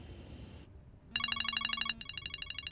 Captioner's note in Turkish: Telefon çalıyor